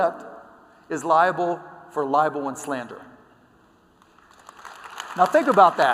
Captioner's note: applause